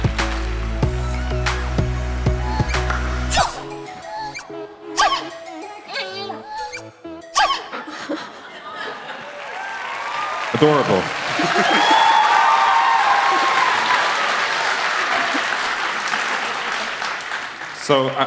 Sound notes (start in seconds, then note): 4.5 sneezing; 11.9 applause